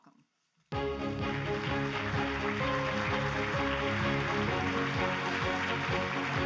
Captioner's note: grand music; audience applauds